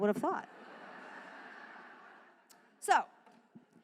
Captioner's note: laughter